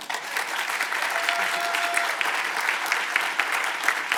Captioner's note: audience applauding